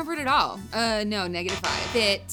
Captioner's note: electronic buzzer